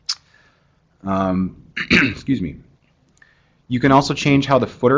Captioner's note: cough